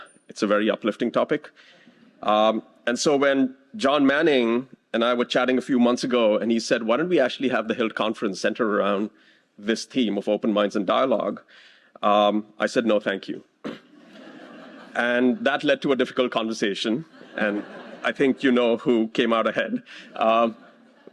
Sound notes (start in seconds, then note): 13.9 laughter